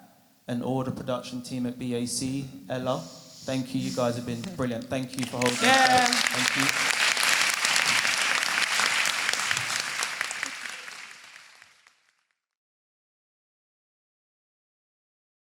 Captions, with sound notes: and all the production team at BAC. Ella. Thank you. You guys have been brilliant. Thank you for holding this space. Thank you. [Audience applause and cheering]